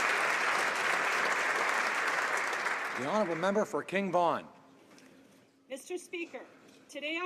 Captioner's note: applause